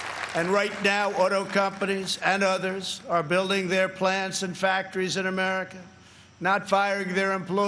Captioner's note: applause